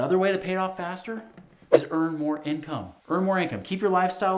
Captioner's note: air whooshing